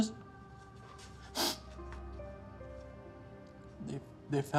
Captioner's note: Steve sniffles